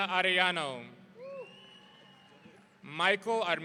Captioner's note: audience cheering